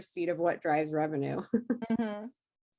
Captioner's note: laughs